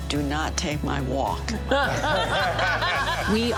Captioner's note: all laughs